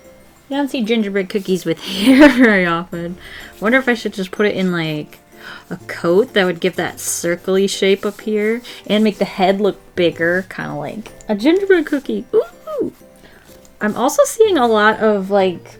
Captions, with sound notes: You don't see gingerbread cookies with hair very often I wonder if I should just put it in like [Gasps] A coat that would give that circle shape up here and make the head look bigger. Kinda like a gingerbread cookie! [Excited squeal] I'm also seeing a lot of like